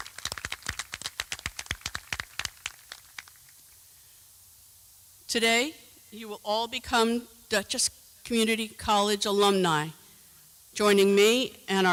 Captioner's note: applause